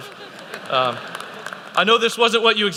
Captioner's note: laughter